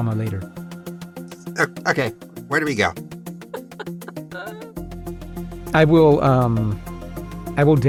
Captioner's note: chuckles